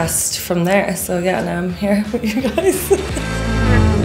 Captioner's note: laughs